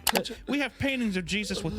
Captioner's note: moaning